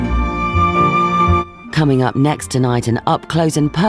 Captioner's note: none